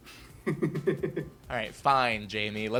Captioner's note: laughing